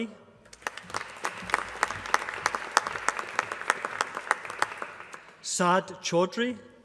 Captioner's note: applause